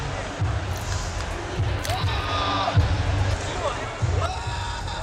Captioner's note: shouting